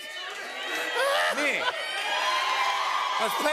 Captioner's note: cheers and applause; louder cheers and applause